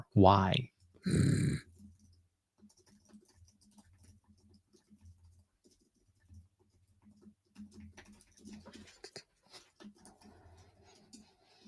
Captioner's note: groans